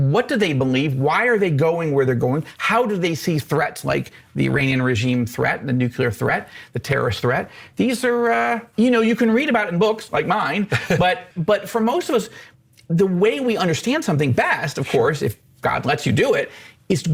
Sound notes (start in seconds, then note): 10.6 chuckles